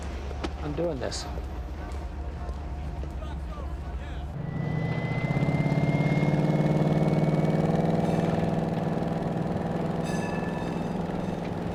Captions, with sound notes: I'm doing this. (engine revving)